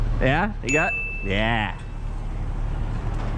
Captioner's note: ding